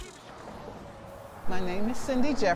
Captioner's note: car engine revving